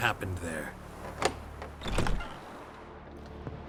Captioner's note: bolt clicks, door creaks